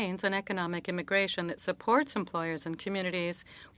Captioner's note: speaking French